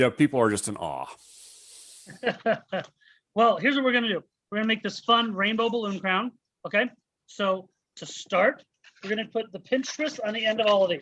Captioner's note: chuckles